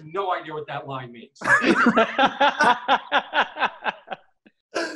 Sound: laughing

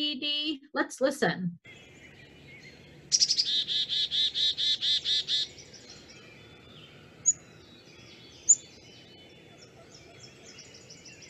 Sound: bird calling

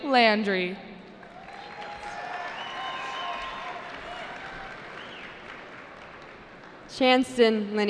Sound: cheering

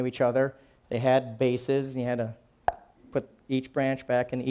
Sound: popping

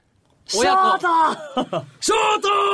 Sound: best boi laugh

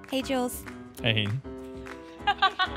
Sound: laughing

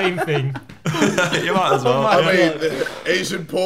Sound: everyone laughing

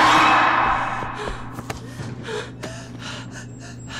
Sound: heavy breathing

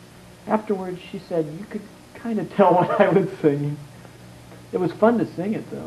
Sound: laughs

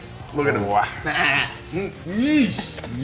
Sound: laugh

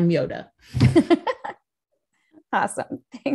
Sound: giggling

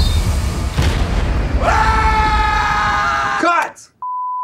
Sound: screaming

